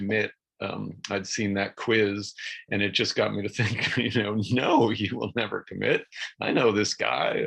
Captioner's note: chuckles